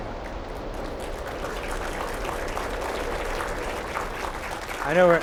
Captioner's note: applause